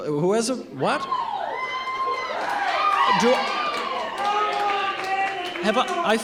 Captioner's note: protestors shouting